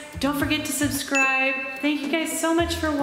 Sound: bell dings

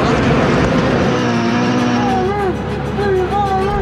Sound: race car engines roaring

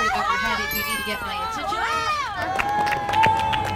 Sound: bell chiming

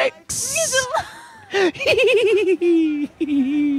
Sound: both laughing

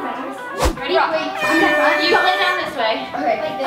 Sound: air horn blows

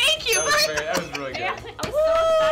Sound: bell dings

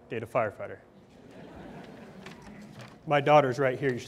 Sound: audience laughs

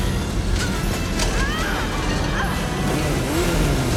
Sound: screaming

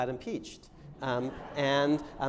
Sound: laughter

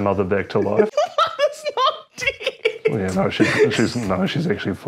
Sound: laughing

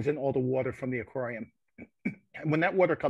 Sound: muffled cough

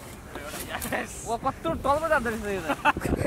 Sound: in Nepali

